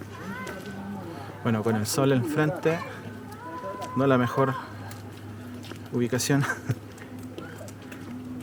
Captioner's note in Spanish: risas